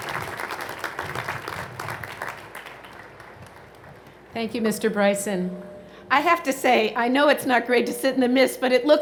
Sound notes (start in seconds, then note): 0.0 applause